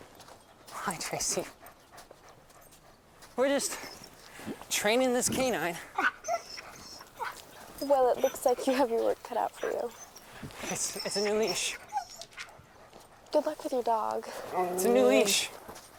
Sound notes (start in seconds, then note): 6.2 Buck whining; 7.7 panting; 14.1 Buck growls